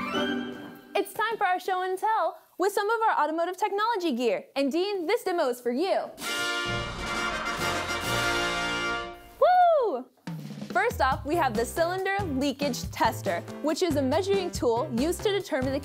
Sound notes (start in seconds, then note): 0.0 playful music; 9.3 cheering